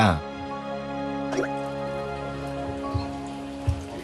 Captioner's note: bubbling